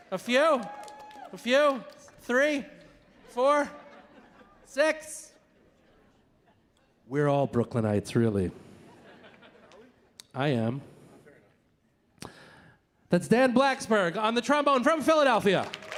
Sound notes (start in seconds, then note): 8.7 audience laughing; 15.4 audience applauding